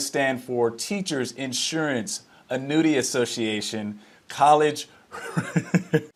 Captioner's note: laughs